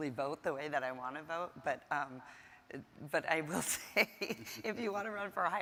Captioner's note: laughs